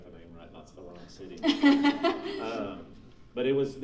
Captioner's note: laughing